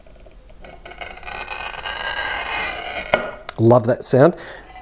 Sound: grinding

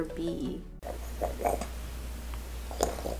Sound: parrot purring; purring loudly

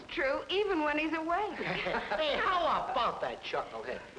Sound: people laughing

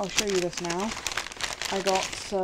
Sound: bag rustles

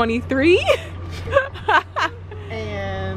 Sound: laughing

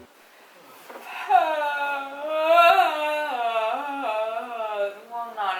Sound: long yawning

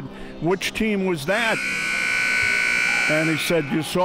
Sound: buzzer sounding

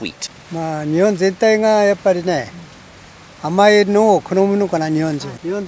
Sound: speaking in foreign language

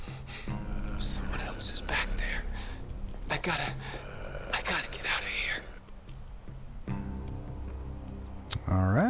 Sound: tape ends

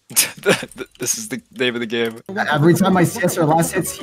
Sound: laughs

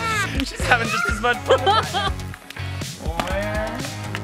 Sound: laughing

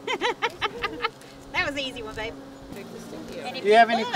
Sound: laughing

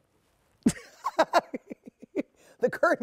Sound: laughs

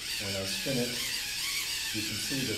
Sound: whirring sounds

